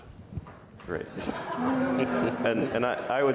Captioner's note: audience laughs